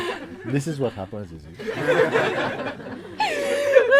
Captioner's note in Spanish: Risas